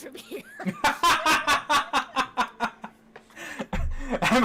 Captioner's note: group laughing